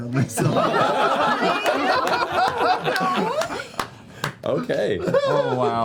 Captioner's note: laughter